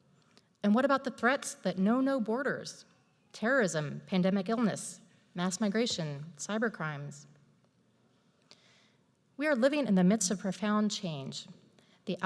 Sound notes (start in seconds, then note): none